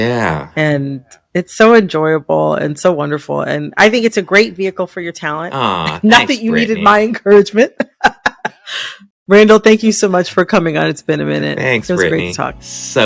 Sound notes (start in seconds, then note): 7.7 laughter